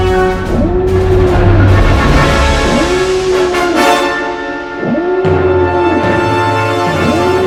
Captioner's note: alarms blaring